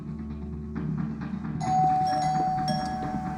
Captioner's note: doorbell rings insistently